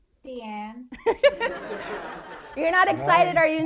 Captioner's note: all laughing